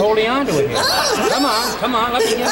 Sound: gigio laughing; audience laughing

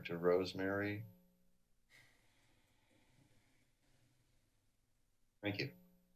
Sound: pause

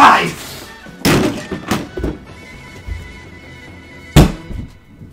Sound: pumpkin thudding; game thudding

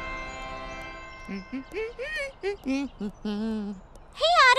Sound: humming

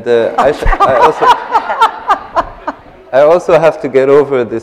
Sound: laughter

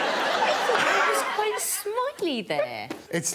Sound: audience laughing

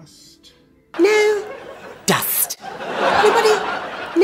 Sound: audience laughing

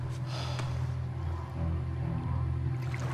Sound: sighs

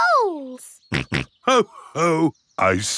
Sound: snorts

